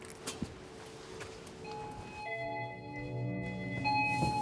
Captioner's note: doorbell ringing